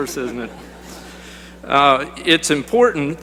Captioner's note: laughter